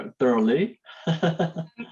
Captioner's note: chuckles